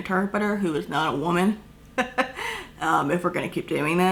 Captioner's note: chuckle